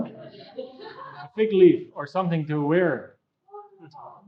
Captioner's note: laughing